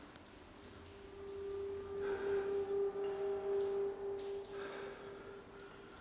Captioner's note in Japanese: マサの荒い息づかい